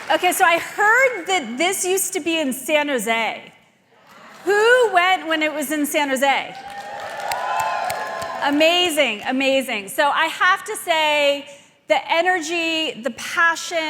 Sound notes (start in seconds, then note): 6.5 audience cheering